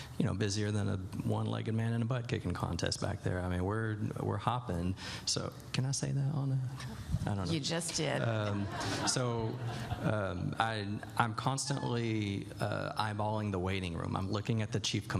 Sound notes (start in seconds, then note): 8.2 laughter